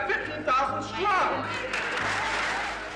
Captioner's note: applause